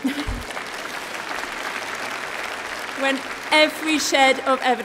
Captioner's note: applause